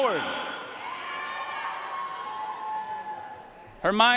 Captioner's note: audience cheering and applauding